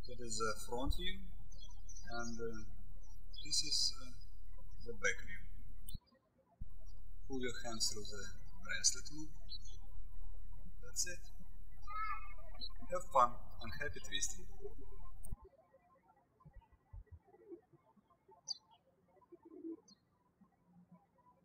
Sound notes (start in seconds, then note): 0.0 birds chirping; 6.0 birds chirping; 15.4 birds chirping